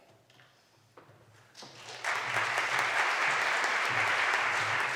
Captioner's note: applause